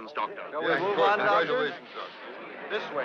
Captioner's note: all chattering